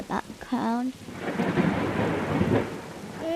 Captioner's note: lightning striking